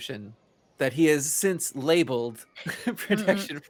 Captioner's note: laughs